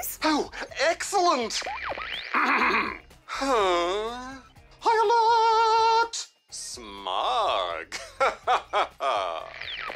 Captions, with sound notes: Oh, excellent! (CLEARS THROAT) (SIGHS) Alert! Smug! Ha-ha-ha-ha.